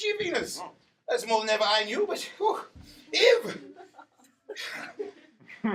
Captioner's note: sighing